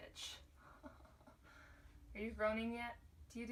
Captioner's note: over exaggerated laughter